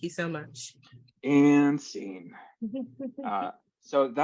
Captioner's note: chuckles